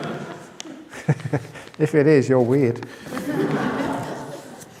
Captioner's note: laughter